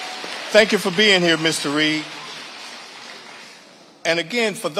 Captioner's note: audience applauding; audience applauding